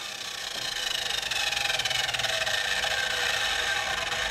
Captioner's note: the sawing noises fade away